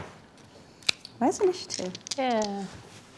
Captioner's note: mumbles